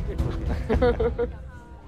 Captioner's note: Jannat and Raghu laughing